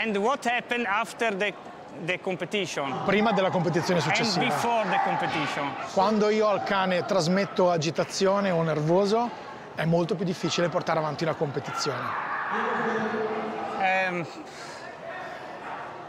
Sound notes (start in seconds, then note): 3.0 speaks in Italian; 6.2 speaks in Italian